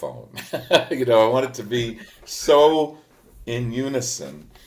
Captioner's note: laughs